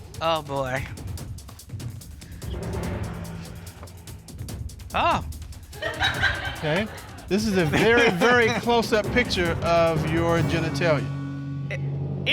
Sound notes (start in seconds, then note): 5.7 audience chuckles